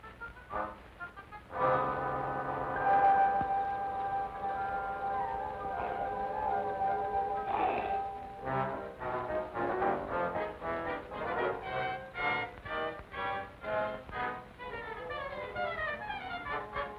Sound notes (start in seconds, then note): 2.2 insects chirping; 5.5 wolfman growling; 7.3 tense music